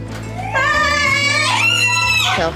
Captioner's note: high-pitched squeals of greeting